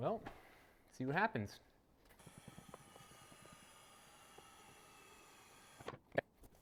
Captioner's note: buzzing